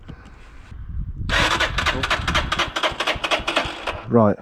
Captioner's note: engine turning